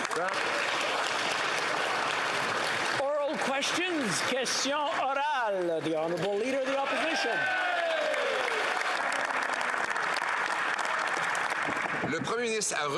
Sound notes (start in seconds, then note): 1.7 speaking the greek language; 6.0 applause